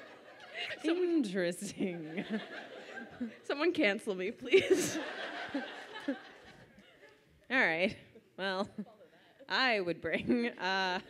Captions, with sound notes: - Interesting. (laughs) - Someone cancel me please. - All right, well, I would bring,